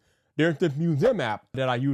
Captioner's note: graphics swooshing